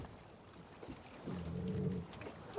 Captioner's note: chien grogne